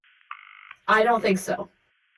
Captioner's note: A recording of a phone conversation underneath. A dial tone